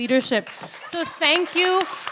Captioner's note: audience applauds